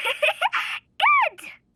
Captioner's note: giggling